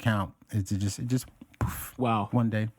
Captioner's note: poof